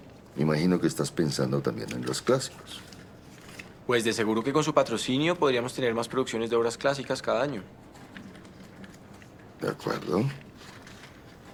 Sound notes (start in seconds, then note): none